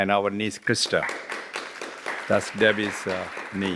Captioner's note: applause